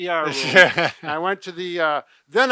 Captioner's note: laughs